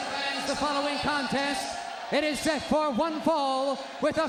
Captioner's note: crowd cheering